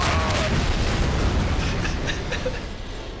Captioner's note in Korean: 폭발; 웃음